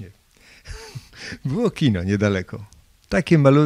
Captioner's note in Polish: śmiech